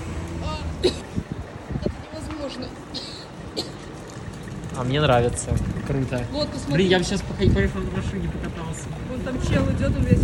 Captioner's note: cough